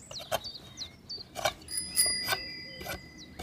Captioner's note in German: Fahrradklingel